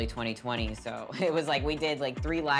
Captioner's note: laughing